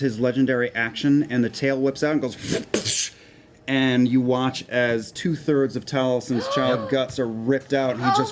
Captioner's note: whipping sound